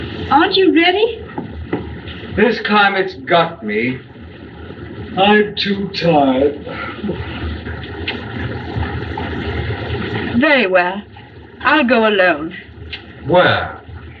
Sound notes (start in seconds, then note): 7.7 yawning